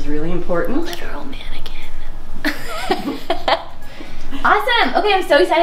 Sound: laughing

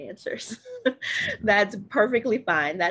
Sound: laughs

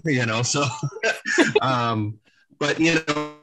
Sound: laughs

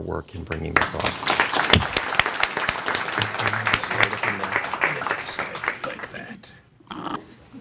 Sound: applause

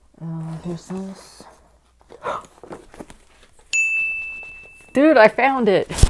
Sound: gasp

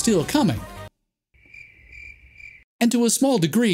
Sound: crickets chirping

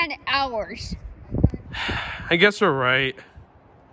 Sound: sigh

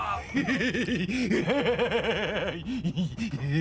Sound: yelp; laugh

